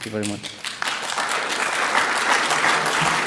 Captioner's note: clapping